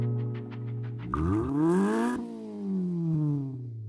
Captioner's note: engine revs